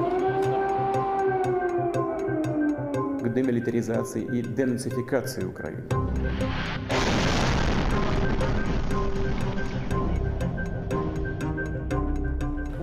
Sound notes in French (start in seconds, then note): 0.0 sirènes d'alarme; 6.3 explosion